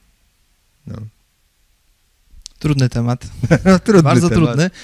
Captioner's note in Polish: śmiech